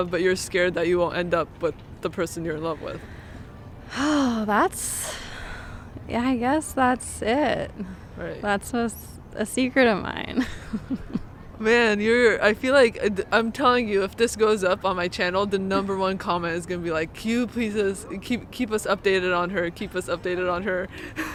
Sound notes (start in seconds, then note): 3.8 sighs; 10.4 both laughing; 21.1 both laughing